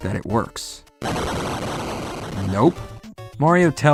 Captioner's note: boom!!